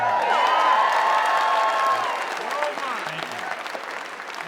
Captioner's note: audience cheering